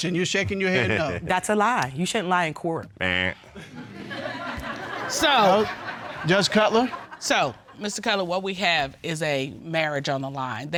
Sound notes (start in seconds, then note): 3.0 imitates buzzer; 3.6 audience laughs